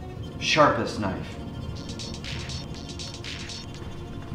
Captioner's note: cell phone rings a dance beat